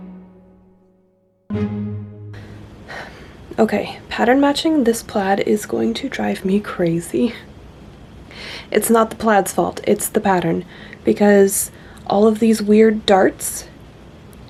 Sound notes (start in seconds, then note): 0.0 music ends; 2.8 tiny sigh